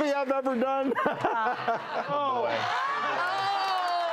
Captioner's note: laughs